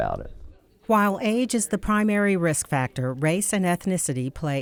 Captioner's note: voiceover